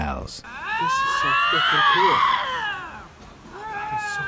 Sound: lynx growling

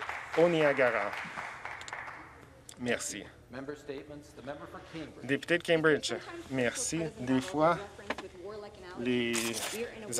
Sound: some Applause

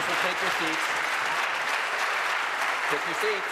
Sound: applause

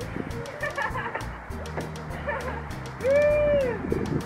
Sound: giggling; laughing

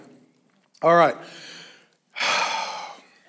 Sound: sighs

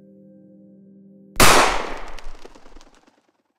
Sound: gunshot

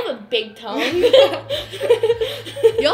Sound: laughter

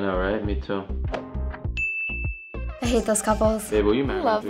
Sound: ding

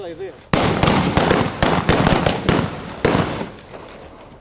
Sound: guns bang

